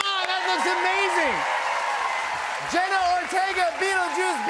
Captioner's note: cheers and applause